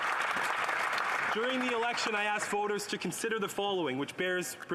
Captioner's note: some Applause